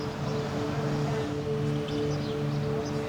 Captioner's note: birds chirping